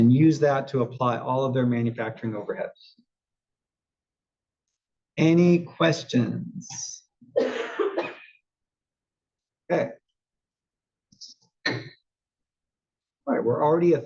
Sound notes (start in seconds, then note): 7.3 cough